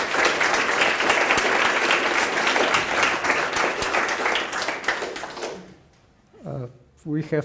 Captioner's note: applause